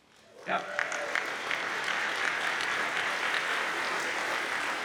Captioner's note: audience applauds